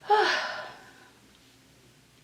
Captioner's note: sighs